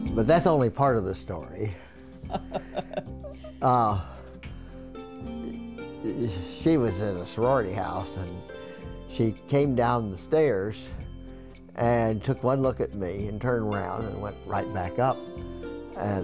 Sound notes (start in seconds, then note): 2.3 laughs